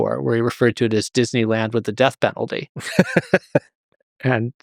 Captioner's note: laughs